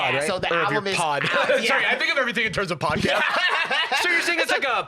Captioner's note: laughs